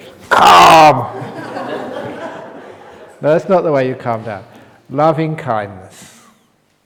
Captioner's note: laughter